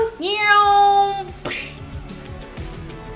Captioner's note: mimics airplane noises; upbeat music